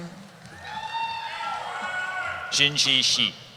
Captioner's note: cheering